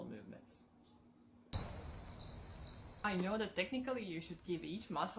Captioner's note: crickets chirping